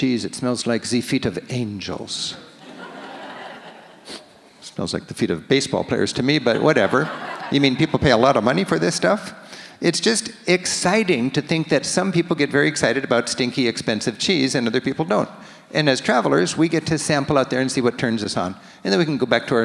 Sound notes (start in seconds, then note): 2.5 audience laughs; 6.4 audience laughs